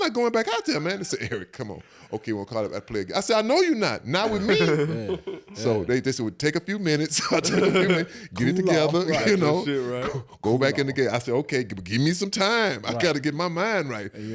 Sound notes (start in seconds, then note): 7.4 all laugh